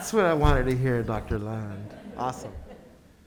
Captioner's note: board members laughing